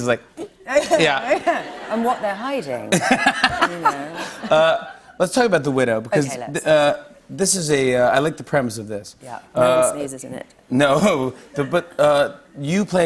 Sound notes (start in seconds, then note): 2.8 laughter